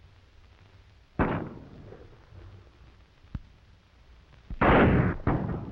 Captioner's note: gunshots banging